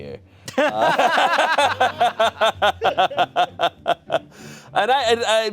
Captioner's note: audience members and laughing